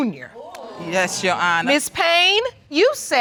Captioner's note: audience exclaiming